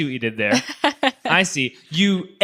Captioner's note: laughs